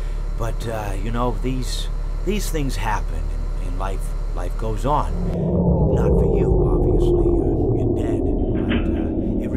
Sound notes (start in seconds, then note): 4.9 power goes out